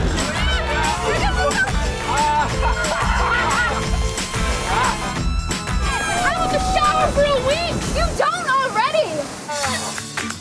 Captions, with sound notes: - The suds! Here comes the soap! [laughter] - I don't have to shower for a week! - You don't already!